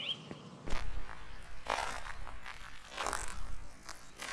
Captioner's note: distorted footfalls